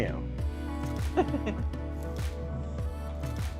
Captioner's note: laughter